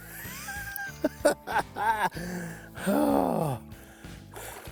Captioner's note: chuckles